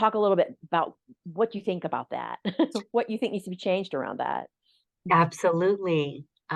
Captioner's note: chuckle